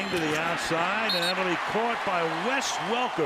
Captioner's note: whistle blows